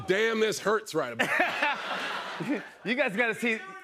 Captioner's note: laughter